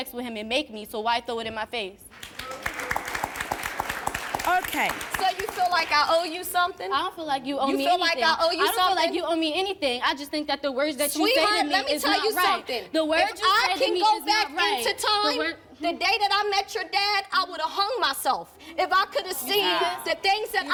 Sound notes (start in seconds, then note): 2.1 applause